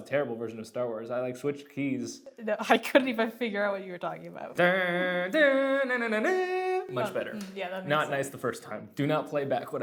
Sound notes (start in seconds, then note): 4.6 vocalizes